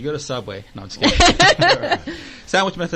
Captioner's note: laughing